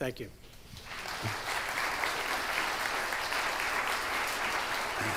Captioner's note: attendees applauding